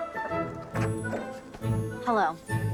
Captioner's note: door opens